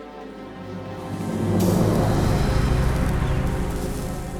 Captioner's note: sizzling